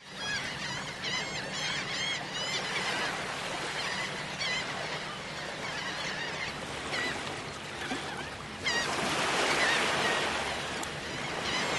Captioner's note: seagulls Cawing